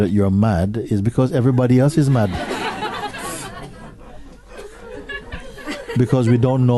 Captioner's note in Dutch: gelach